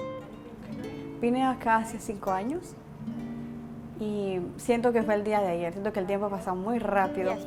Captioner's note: speaking Spanish